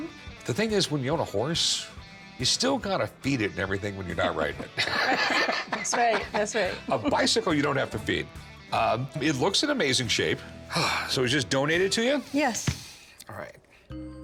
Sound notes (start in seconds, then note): 4.0 laughs; 10.7 sighs